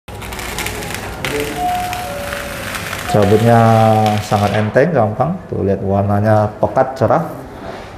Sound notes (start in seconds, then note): 0.1 PET film noise; 1.4 bell sound; 2.6 PET film noise